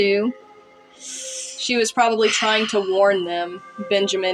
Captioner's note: sharp Inhale